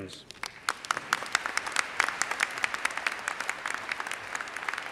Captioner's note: audience applauds